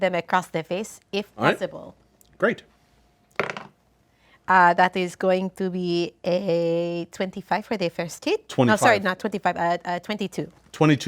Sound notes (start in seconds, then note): 3.4 dice roll